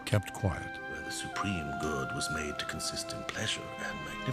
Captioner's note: continues reading